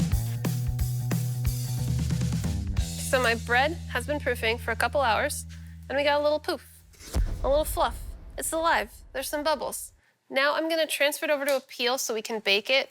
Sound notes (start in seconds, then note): 0.1 upbeat music; 6.8 blasting